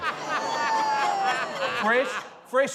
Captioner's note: laughter